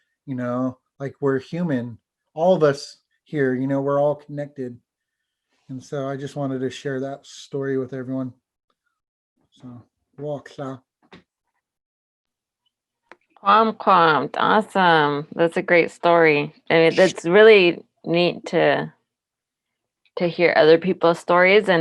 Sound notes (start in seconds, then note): 13.8 foreign language